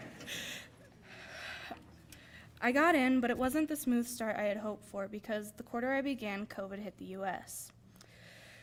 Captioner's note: laughter